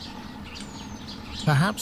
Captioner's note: birds chirping